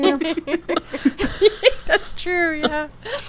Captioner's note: laughing